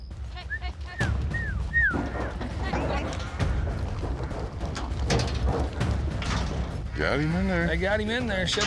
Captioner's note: whistling, wrangling